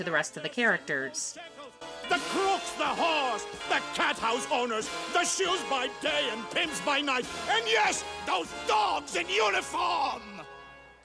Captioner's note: sing-shouting